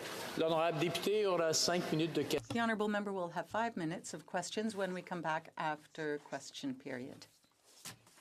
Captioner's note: some Applause